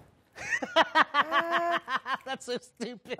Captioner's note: laughing